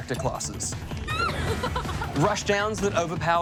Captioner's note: laughs